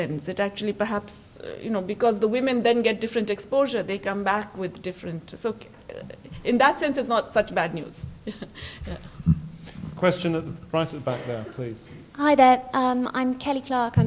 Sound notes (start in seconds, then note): 8.2 laughs